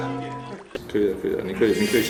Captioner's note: scratch scratch scratch scratch